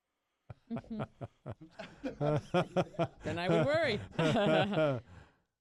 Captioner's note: laughter